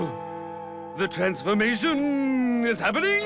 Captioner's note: bell tolls; creepy voice